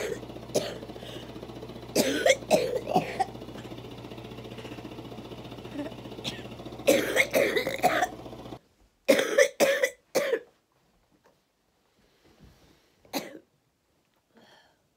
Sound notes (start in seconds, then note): 0.0 coughing; 3.9 vest machine vibrating; 5.6 coughing